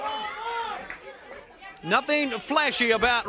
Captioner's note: crowd chatter